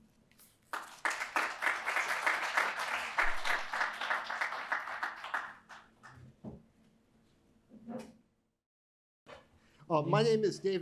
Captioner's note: applause